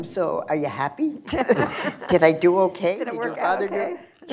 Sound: laughter

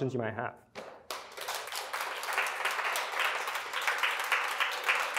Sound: applause

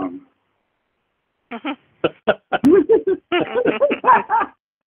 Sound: laughs

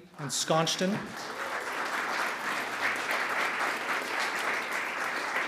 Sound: audience clapping

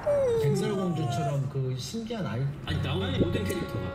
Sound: yawn~

